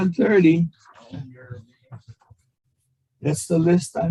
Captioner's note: voice muffling